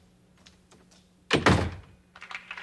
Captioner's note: door closing